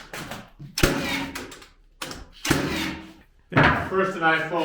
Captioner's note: banging sound